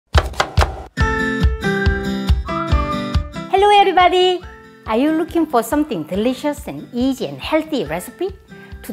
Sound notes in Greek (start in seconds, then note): 0.1 ήχος από κόψιμο μαχαιριού; 1.0 χαρούμενη μουσική